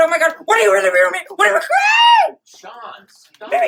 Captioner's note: murmullos, gritos